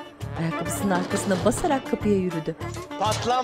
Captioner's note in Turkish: Kapı vurulma sesi